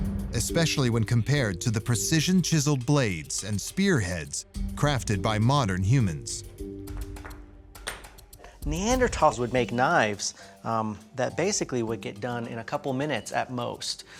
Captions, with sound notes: especially when compared to the precision-chiseled blades and spearheads crafted by modern humans. [rocks banging] Neanderthals would make knives that basically would get done in a couple minutes at most.